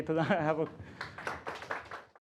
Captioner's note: laughter